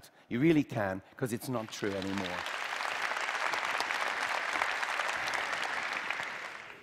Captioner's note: Applause; 掌聲